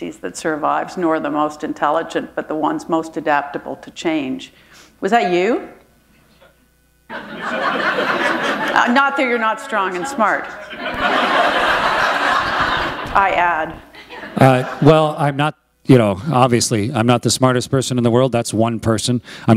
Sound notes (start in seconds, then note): 7.7 laughter